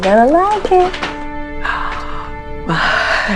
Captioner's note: uplifting instrumental music; woman gasps